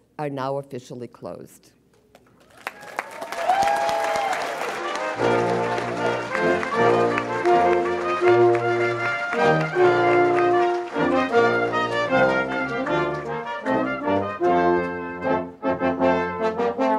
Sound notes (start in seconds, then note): 2.7 audience applauds and cheers; 5.2 brass band plays orchestral music